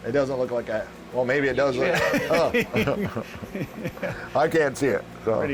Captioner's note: laughing